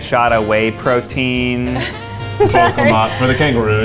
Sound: laughs

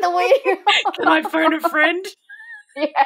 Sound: both laughing

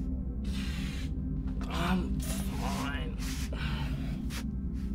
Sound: sighs; ambient music

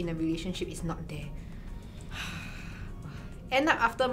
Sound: sighs

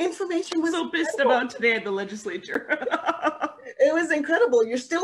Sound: laughing

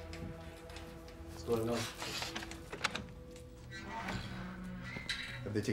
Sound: door creaks

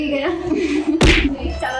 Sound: chuckles

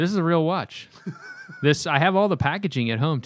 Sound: laughter

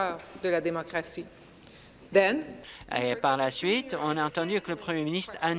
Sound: speaking in French

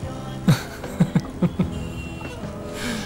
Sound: chuckles

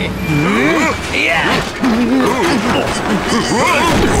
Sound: guards groan

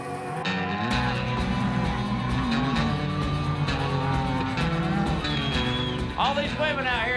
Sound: bulls grunting

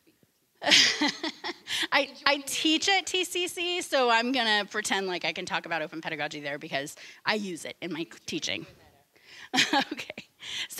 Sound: laughing; laughing

